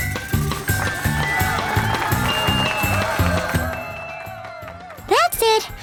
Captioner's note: circus music; clapping